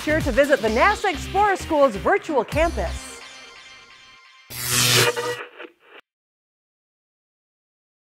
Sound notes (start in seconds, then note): 4.4 sound Effects